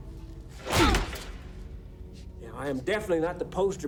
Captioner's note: punch thuds